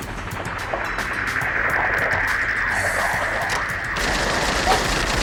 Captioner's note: exciting music; helicopter buzzing; rapid gunfire popping